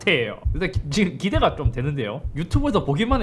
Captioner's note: heart pounding